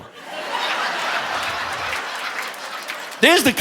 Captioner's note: audience laughing